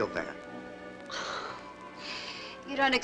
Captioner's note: Sybil scoffs